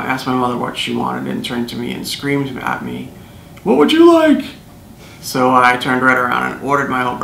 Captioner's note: yells